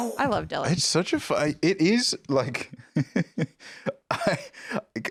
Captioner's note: laughs